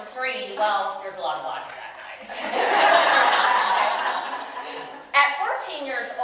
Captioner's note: audience: Laughter